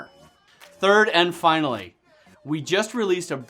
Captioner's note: none